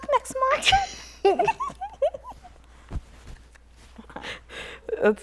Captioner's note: laughter